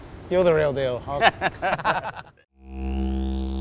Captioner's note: laughs; outro Music